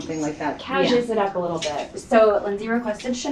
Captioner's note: woman's Voice